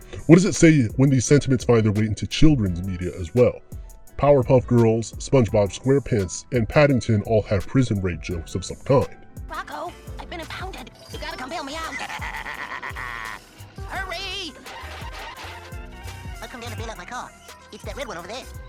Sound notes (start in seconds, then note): 14.0 other car laughs; 16.3 squeaking noises